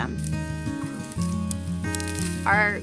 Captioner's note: sound of branches breaking